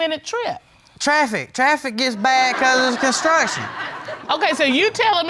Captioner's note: audience laughing